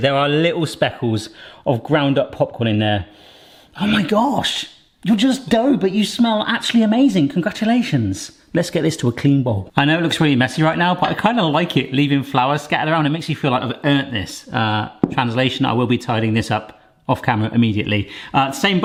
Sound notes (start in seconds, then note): 3.1 inhales